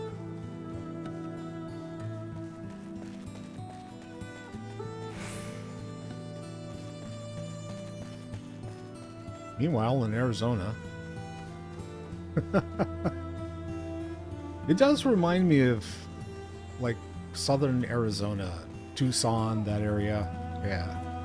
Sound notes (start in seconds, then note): 12.2 laughs